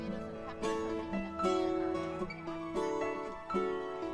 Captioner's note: children chattering